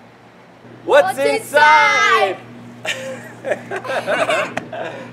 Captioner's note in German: Lachen